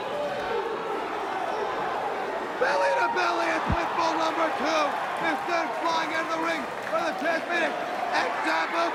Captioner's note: crowd cheering